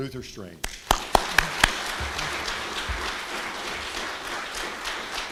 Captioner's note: applause